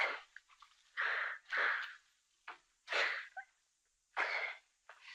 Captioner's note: anita cries